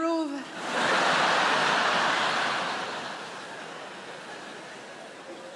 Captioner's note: audience laughing